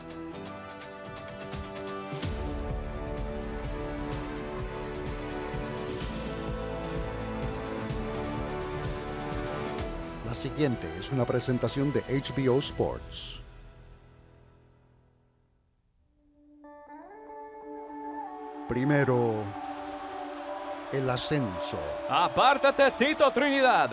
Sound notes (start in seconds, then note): 15.9 soft instrumental music; 17.6 crowd cheering